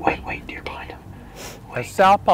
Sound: whispering

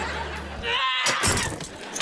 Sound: screaming

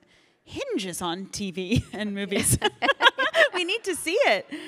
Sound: chuckles

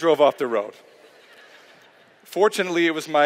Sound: laughter

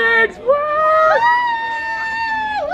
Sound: deep Voice; all cheering

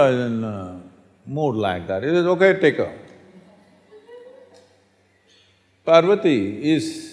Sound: laughter

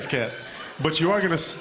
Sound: laughing

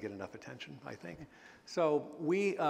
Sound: chuckle

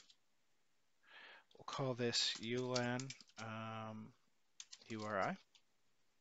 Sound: keyboard clicking

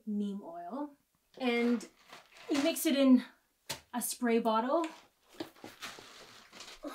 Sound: groans

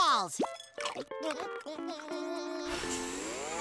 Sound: chewing; bubble inflating

